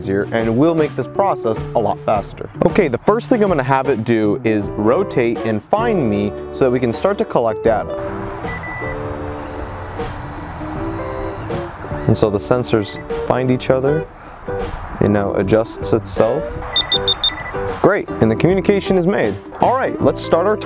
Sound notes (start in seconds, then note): 9.3 device beeps; 16.7 device beeps